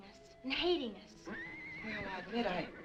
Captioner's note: horse neighing